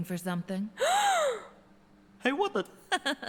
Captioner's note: Becky gasping